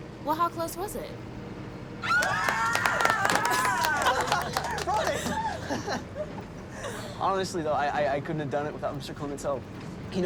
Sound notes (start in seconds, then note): 2.1 all cheer and laugh